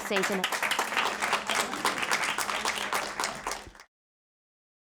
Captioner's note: audience applauding